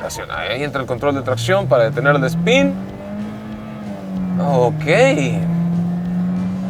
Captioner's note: engine roaring